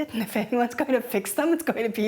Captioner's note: laughing